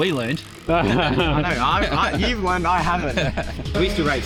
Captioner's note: laughing